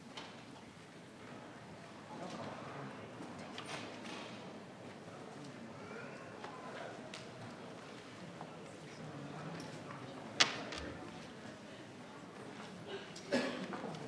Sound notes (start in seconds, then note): 7.1 people chattering